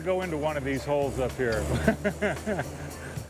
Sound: laughs

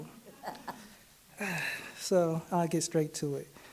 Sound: laughing

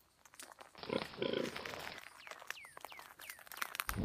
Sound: pig noises

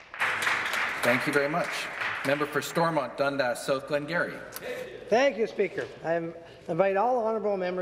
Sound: some Applause; speaking French

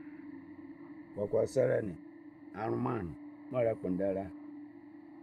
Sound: in Twi

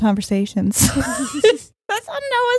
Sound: both laughing

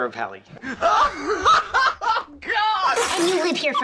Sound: uproarious laugh track; spluttering

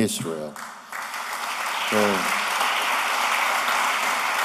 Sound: applause

